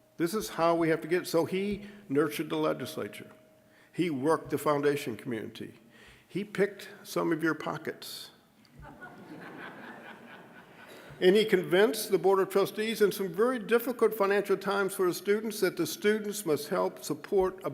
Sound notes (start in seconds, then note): 8.8 audience laughing